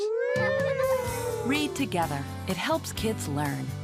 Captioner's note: kids imitate a siren